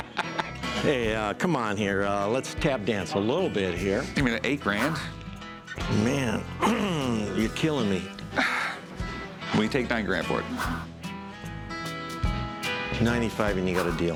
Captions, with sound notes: Hey, come on here. Let's tap dance a little bit. I can give you eight grand. Man, [clears throat] you're killing me. Will you take nine grand for it? 95 and you got a deal.